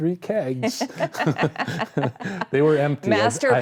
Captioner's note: both laughing